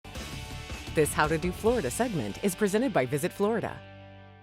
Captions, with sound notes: - [Voiceover] This How to Do Florida segment is presented by VISIT FLORIDA.